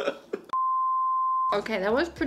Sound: laughing; beeping

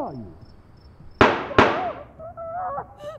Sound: gunshots

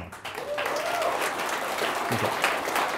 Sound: audience applauding

